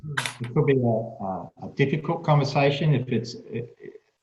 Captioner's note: speaking faintly